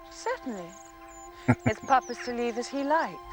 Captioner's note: chuckling